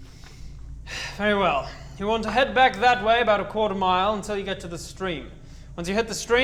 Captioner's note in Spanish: Suspiro